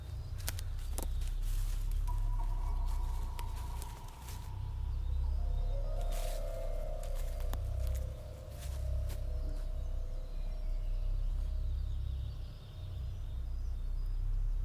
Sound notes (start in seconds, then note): 6.1 leaves rustling